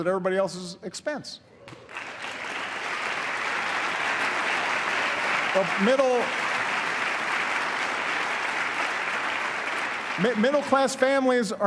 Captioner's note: applause